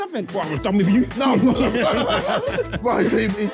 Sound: laughing

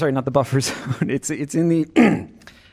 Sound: laughter

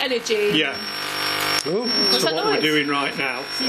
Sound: loud beeping

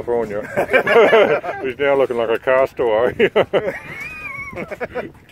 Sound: laughs; laughs

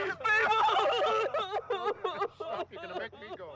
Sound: crying

